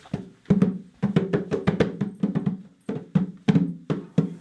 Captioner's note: hands thudding